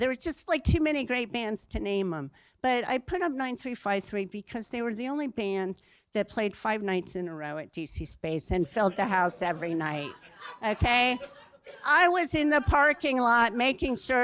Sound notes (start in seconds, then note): 10.2 laughter